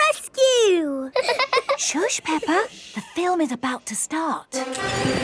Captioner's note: both laughing; heroic music